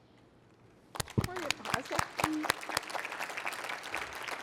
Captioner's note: applause